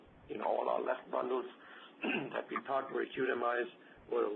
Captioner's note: coughs